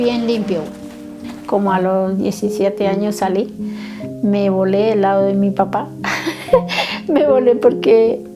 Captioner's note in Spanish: risas